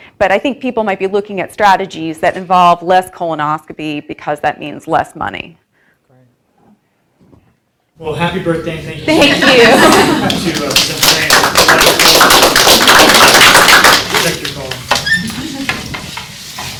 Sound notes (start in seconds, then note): 9.1 audience laughs; 9.4 audience applauds